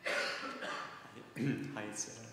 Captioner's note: coughing